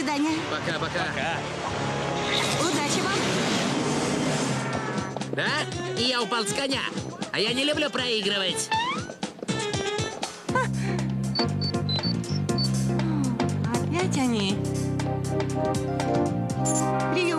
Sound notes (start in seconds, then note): 9.2 beeping